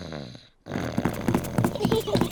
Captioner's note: snores; both giggle